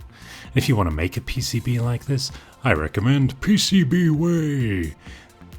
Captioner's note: deep, booming voice